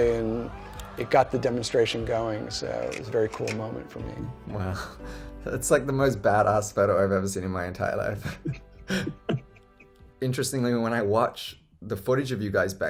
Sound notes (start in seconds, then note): 8.8 laughs